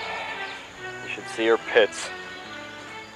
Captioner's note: sighs